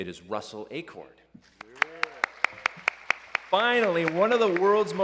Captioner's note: applause